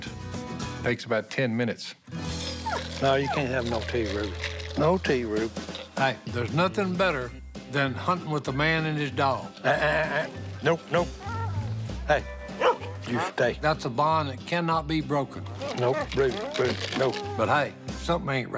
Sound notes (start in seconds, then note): 12.6 dog barking; 15.5 dog whining